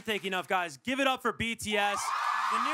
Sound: cheering

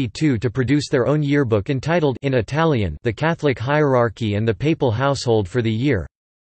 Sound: in Italian

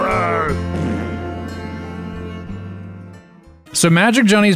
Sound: farts with reverb

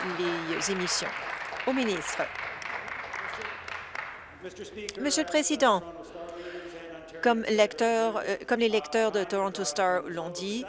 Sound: applause

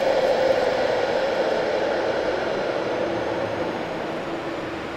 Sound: sound of train arriving

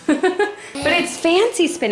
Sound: laughter

